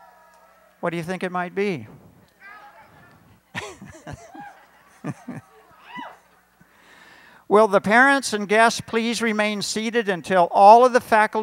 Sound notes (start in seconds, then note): 3.5 laughter